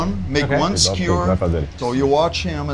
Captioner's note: speaking Portuguese